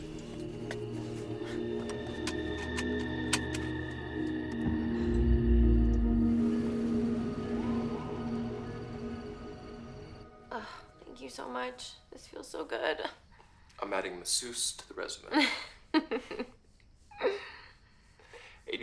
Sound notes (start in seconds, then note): 0.1 tense pensive music; 10.5 groans; 15.3 Candace laughs